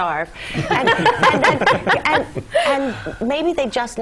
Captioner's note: laugh